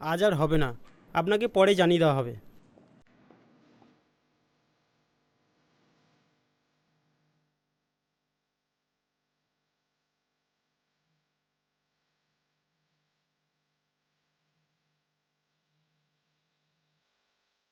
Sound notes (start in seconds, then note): none